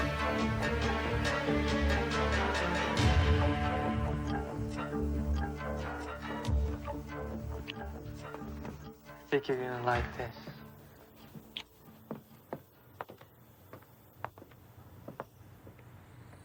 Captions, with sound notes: - I think you're gonna like this. (lips smacking) (footsteps clacking)